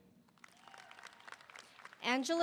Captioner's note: audience applauding; audience cheering